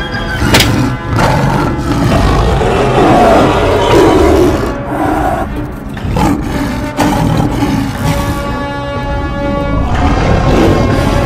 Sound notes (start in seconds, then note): 0.5 smack sounds; 3.8 Saber Tooth growls - disoriented; 9.8 Bumby growls and charges